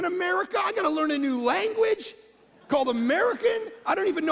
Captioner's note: congregation laughing